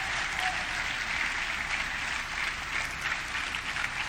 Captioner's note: audience clapping